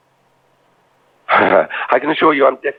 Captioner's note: laugh